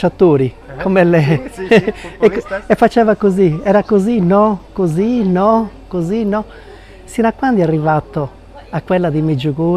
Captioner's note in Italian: risate